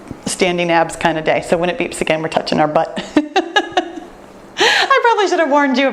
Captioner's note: laughs